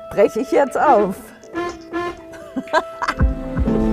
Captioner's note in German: Hupen